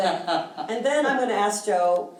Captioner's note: chuckles